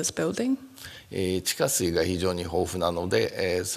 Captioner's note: speaking japanese